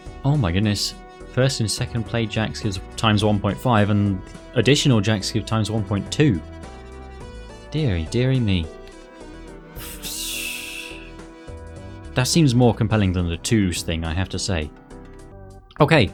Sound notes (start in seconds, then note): 9.7 phwssss